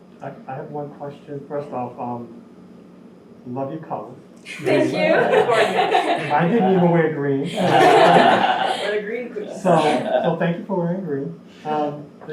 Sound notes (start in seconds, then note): 4.5 laugh; 7.4 laughing